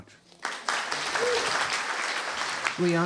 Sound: applause

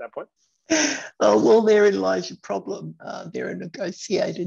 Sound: chuckling

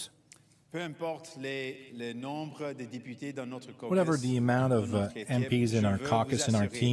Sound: speaking French

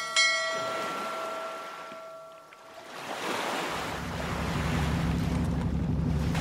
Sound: boat docking and bell ringing; sound of sea

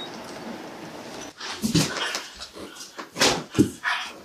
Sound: drawers closing

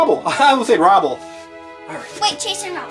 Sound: chuckles

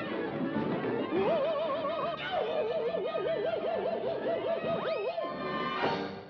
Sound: screams

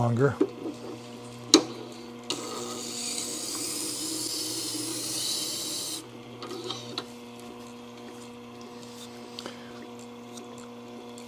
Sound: grinding & motor noise

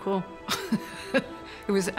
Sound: chuckles

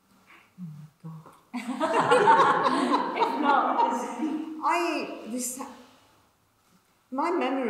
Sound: laughs; audience laughs

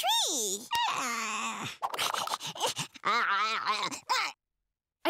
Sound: babbling

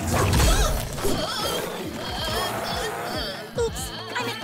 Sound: yelping and shouting

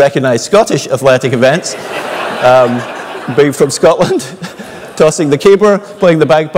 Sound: laugh

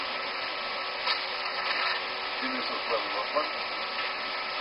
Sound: paper noises

